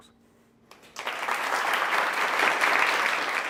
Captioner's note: applause